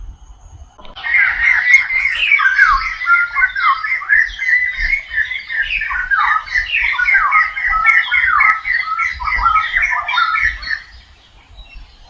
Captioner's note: birds chirp loudly